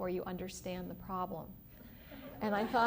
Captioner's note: laughter